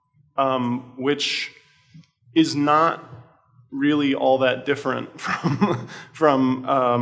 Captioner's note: laughs